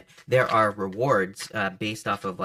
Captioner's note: cards shuffling